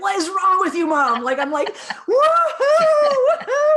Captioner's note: laughing